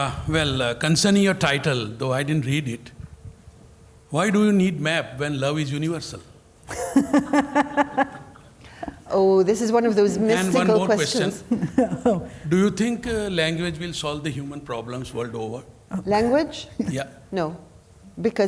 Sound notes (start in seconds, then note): 6.7 laughing